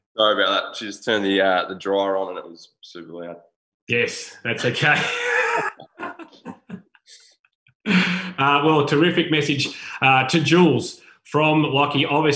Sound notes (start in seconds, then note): 4.9 laughing